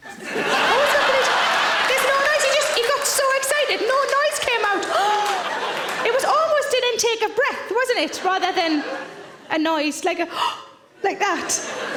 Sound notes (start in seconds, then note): 0.1 audience laughing; 4.9 gasps; 10.3 gasps